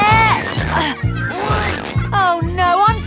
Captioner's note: grunting